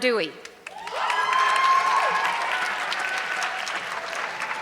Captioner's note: audience clapping